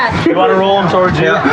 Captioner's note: arguing